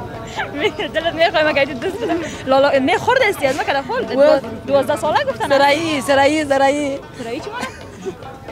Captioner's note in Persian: خنده